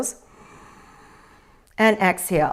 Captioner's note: inhales